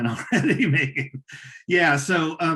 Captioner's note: laughing